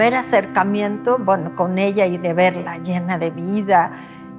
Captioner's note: speaks Spanish